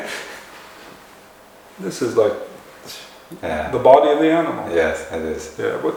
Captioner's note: laughter